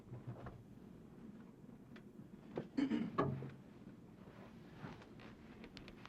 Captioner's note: clearing throat